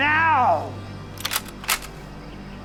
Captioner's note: cocks gun